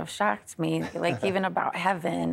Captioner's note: chuckling